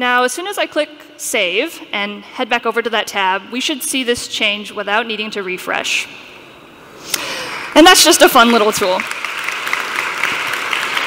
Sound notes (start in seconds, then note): 6.2 applause